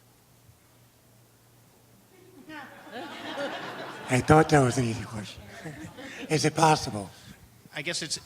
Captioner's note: laughter